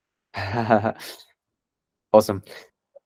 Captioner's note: laughs